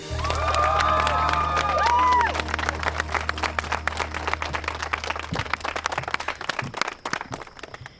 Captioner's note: cheering, applause